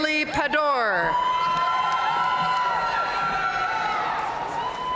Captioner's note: audience cheering and applauding